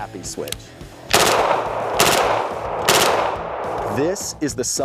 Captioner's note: gun firing